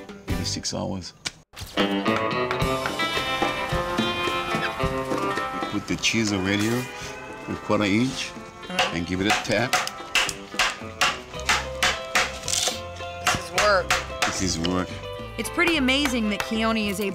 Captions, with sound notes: MAYBE SIX HOURS. [HAMMERING] WITH THE CHISEL RIGHT HERE, WE'RE GONNA GIVE IT A TAP. [TAPPING, HAMMERING] THIS IS WORK. THIS IS WORK. JILL, V/O: IT'S PRETTY AMAZING THAT KEONI IS ABLE TO